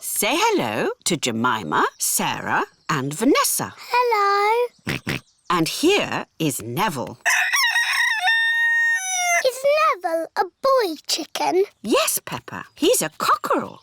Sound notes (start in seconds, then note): 4.8 george oinks; 7.2 rooster crows